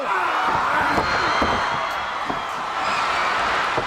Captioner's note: crowd cheers